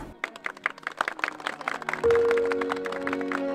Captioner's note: clapping